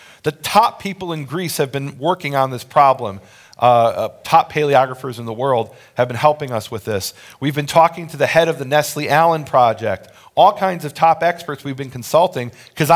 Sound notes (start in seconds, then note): none